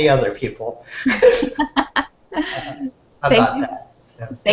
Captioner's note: laughter